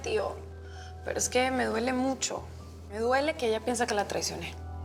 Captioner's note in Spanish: none